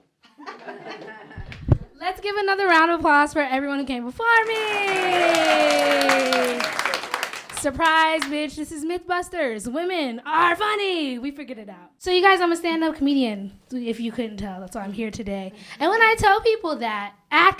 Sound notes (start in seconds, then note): 0.2 laughter; 4.3 applause